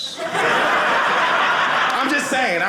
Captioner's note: audience laughing